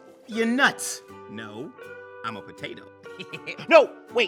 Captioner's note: laughs